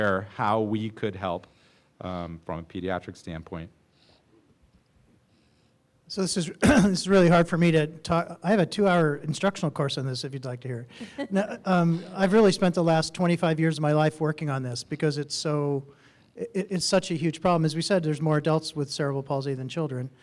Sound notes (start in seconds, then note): 6.6 coughs loudly